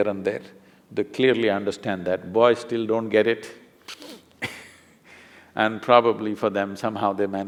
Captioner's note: laughs